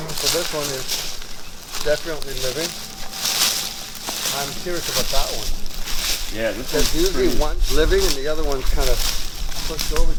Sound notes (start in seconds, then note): 3.6 rustling leaves